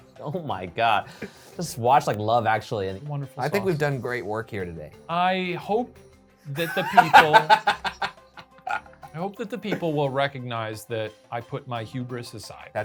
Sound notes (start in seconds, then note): 0.0 laughing; 6.6 laughing